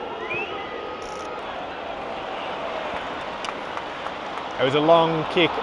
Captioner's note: crowd cheering